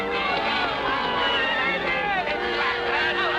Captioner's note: crowd shouting